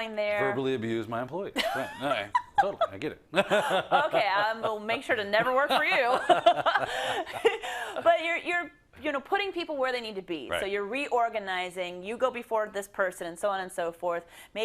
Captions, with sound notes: -Verbally abuse my employees, all right, totally, I get it [LAUGH]. -Okay, I will make sure to never work for you [LAUGH]. But you're putting people where they need to be. So you're reorganizing, you go before this person, so on and so forth.